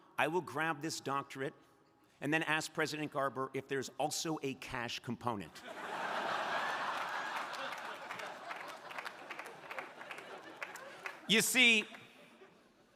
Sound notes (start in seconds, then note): 5.6 crowd laughing